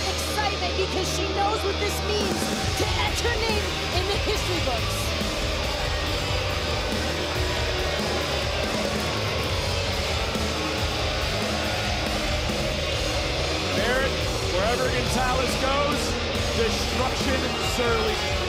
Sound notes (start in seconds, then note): 5.4 audience booing